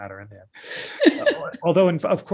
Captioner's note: laughter